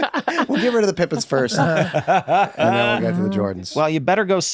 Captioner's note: laughs